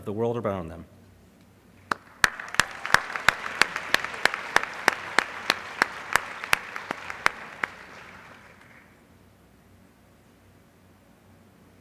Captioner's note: applause